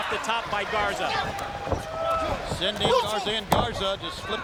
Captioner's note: applause